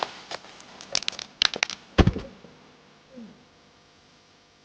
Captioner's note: bone crunching